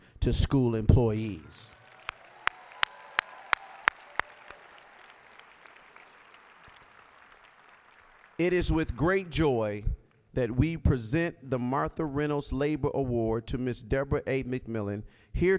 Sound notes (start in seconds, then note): 1.6 applause